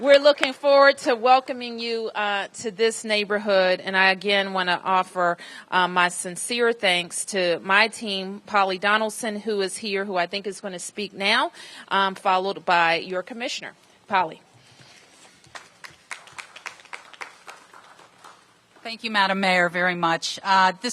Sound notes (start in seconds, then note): 17.1 applause